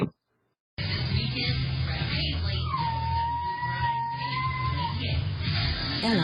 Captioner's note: TV continues playing; Ella howls